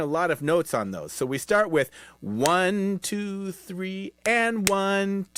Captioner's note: clapping